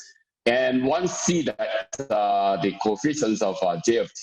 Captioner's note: murmur